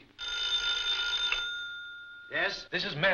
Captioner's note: phone rings